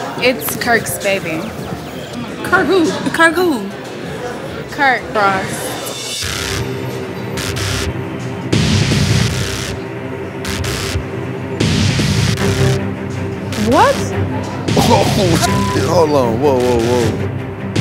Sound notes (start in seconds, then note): 6.3 dramatic music; 15.3 beep